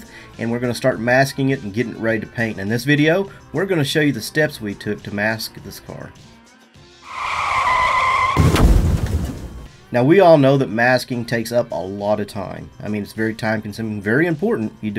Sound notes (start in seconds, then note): 7.0 tires screech